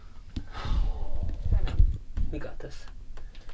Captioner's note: bandmate sighs